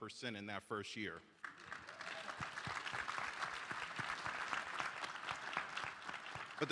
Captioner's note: applause